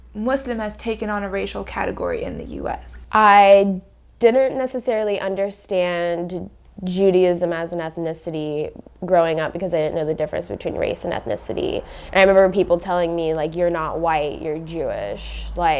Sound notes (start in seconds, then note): none